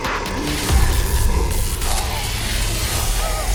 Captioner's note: zapping